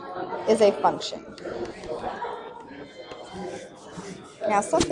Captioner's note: stylus taps